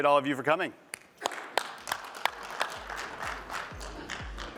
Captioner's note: applause